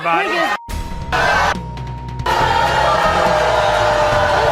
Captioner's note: audience booing